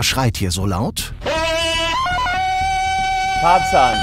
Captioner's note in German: Lautes Schreien